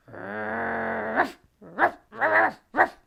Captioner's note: dog barking